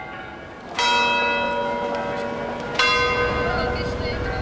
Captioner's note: bell chimes